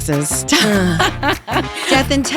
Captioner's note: laughs